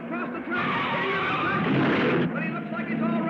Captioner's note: tires squealing; car crashing